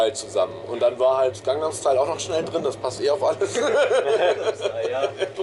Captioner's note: laughing